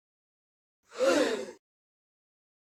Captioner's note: gasp